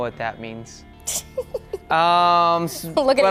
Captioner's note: laughs